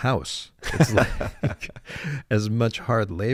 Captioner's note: laughing